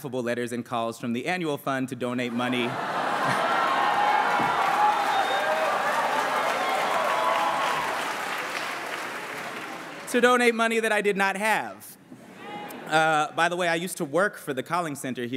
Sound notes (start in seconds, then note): 2.2 laughter and cheering